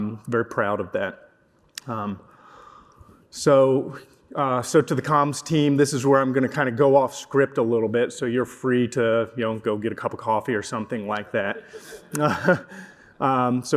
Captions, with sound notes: I'm very proud of that. So to the comms team, this is where I'm going to kind of go off script a little bit. So you're free to go get a cup of coffee or something like that. [LAUGHTER]